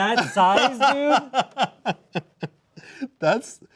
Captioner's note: laughing